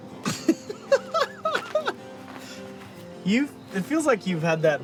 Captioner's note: laughing